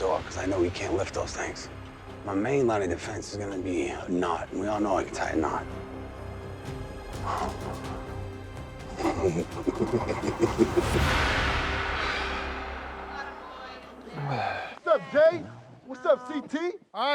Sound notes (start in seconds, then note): 8.9 man laughing